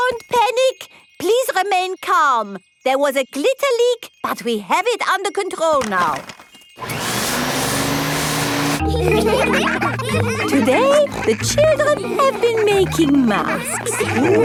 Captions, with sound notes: Don't panic! Please remain calm. There was a glitter leak, but we have it under control now! (WHIRRING) (ALL LAUGHING) Today, the children have been making masks.